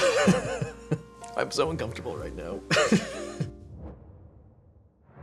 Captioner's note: laughs; laughs